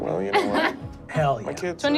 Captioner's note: laughs